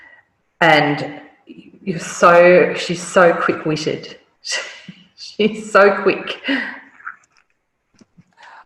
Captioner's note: laugh